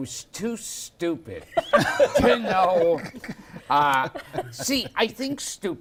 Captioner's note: laughter